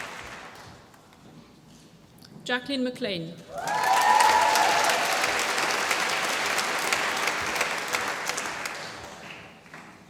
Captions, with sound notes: Jacqueline McLean. (APPLAUSE)